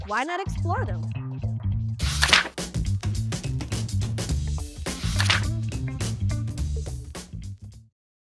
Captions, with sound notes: Why not explore them? (groovy upbeat music) (pages rustling)